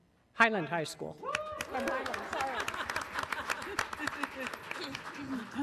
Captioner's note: audience applauding